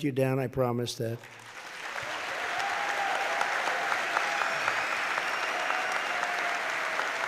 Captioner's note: applause